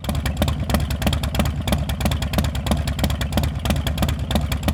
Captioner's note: motorbike rumbles